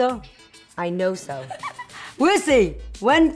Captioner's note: laughs